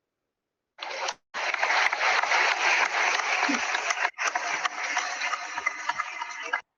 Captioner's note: applause